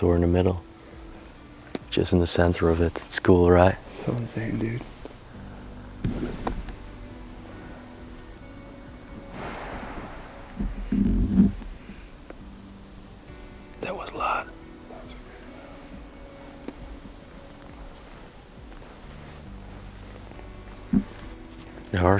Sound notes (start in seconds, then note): 9.3 loud smash